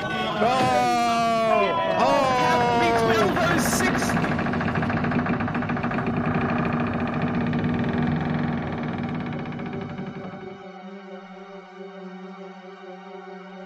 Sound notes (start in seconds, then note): 0.0 everyone Exclaims; 5.1 creaking